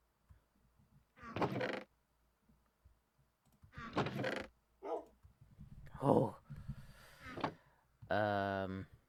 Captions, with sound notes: Hooooo! *Inhale* Uuuummmmm...